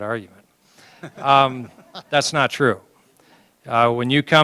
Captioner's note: laughter